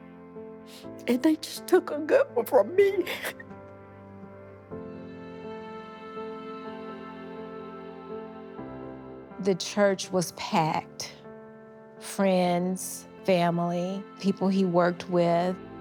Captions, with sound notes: and they just took a good one from me. (sobbing) (gentle somber music continues) - The church was packed. Friends, family, people he worked with,